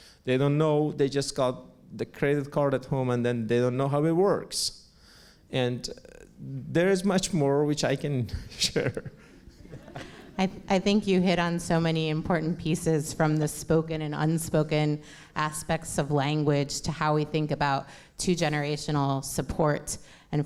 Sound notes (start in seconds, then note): 8.7 laughs; 8.8 audience laughs